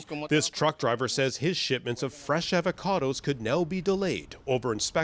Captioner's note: speaking alternate language